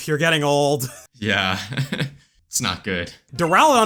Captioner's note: laughs